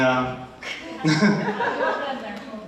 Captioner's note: attendees laughing